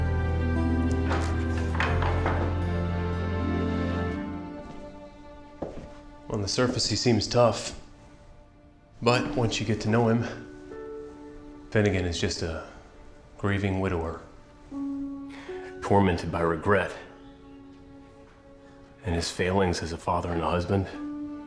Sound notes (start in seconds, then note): 0.8 door opens; 4.2 footsteps